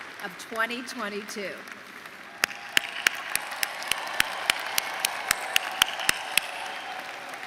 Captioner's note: cheering and applause